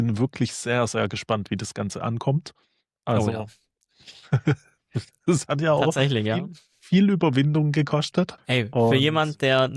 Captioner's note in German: gelächter